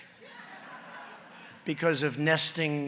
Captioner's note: laughter